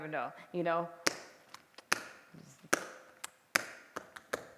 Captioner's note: tapping